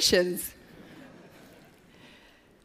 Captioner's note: laughter